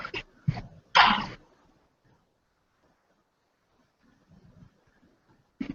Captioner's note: silence